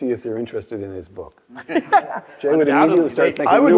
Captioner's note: laugh